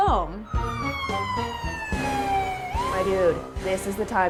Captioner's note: ambulance siren wailing